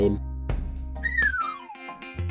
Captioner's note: falling down whistle sound